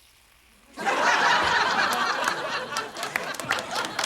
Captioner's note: laughter